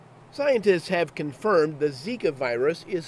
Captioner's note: voiceover